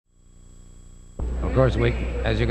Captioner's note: graphics fuzzing softly; atmosphere humming softly